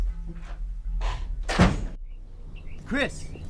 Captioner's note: door slams; bird chirping